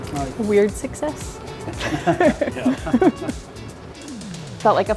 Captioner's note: chefs laughing